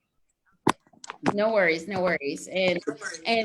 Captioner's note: microphone shuffling